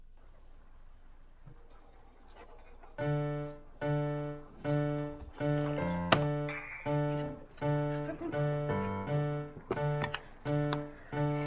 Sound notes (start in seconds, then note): 6.4 alarm goes off